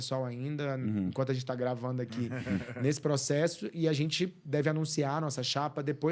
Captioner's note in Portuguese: limpando a garganta